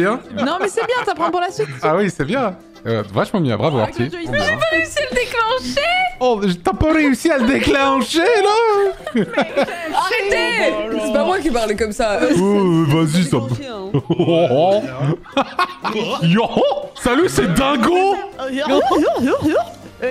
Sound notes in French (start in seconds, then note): 6.5 accent québécois; 8.9 rires; 12.3 voix de jeune de banlieue; 13.9 bruit de Dingo; 15.3 rire